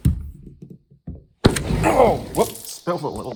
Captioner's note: glass door sliding open